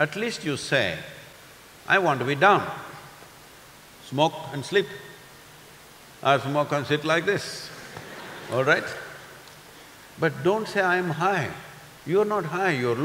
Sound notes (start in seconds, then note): 7.7 few laugh